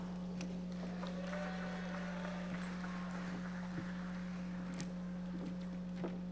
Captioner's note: audience members cheering and applauding